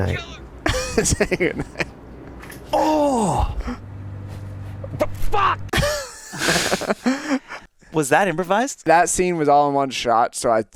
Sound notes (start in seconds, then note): 0.6 laughing; 5.7 interviewer and Joel laughing